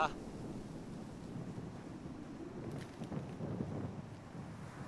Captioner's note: wind blowing